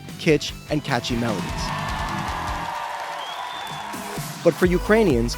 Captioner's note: audience cheering